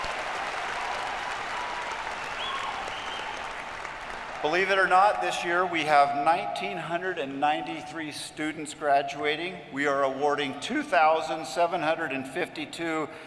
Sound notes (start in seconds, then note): 2.7 cheers and applause